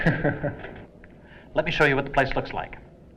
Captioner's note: Adrian laughs